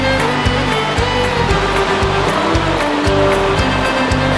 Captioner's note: water rushing